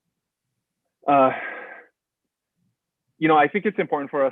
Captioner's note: breaths out heavily